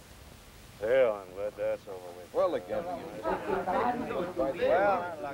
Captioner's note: low taIking